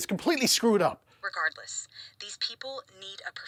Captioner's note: on phone